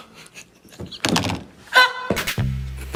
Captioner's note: laughing